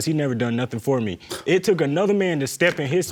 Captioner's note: scoffs